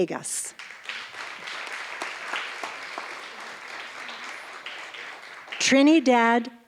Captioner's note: applause